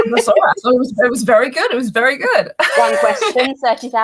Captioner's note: laughs; laughs